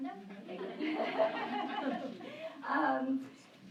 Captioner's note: laughter